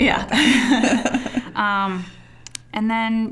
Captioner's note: both laughing